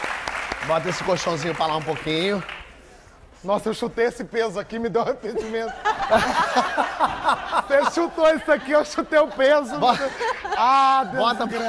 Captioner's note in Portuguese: aplausos